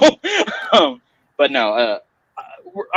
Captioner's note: laughing